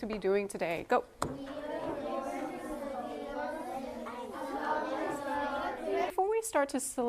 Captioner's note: students talking